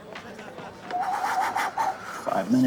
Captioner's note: blowing air rhythmically